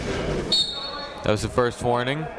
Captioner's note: whistle tweeting